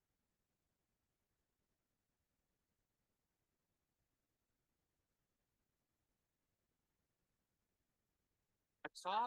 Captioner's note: audio cuts out